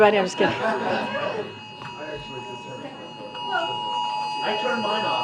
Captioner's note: laughter